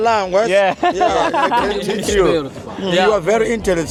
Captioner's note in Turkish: kahkaha